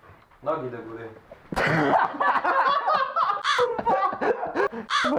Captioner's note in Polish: śmiech